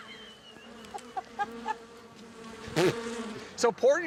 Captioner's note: laughs